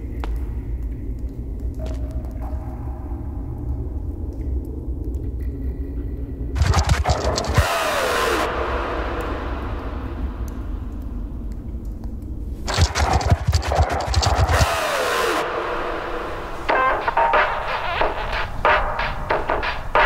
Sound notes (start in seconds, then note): 6.6 scorpion scurries; 10.2 water drips; 12.6 scorpion scurries; 16.8 upbeat music